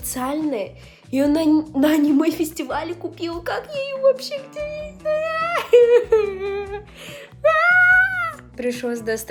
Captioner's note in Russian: драматичный плач